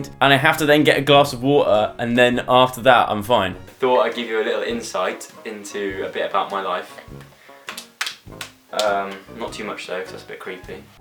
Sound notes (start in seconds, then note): 7.6 slaps knees